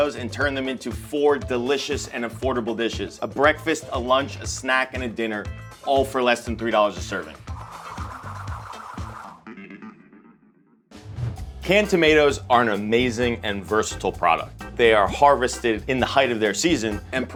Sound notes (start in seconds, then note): 7.4 spinning sound; 7.9 upbeat music